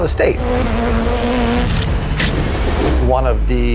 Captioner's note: bike engines roaring; tires screech